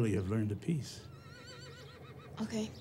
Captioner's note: horse whinnies distantly